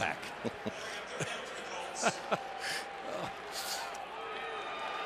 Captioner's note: laughter